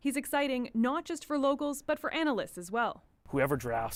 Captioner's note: speaking French